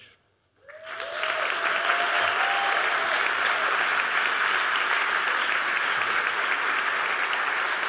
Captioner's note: applause